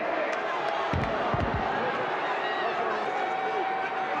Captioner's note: audience chattering